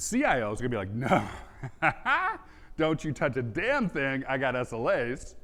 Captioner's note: laughs